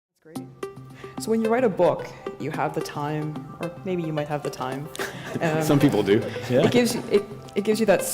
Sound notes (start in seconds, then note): 4.9 chuckle